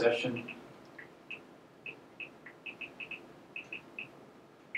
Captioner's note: cell phone clicking